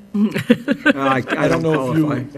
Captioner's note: chuckling